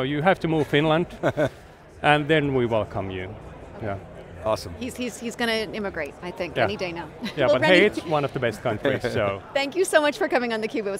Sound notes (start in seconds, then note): 1.0 laughing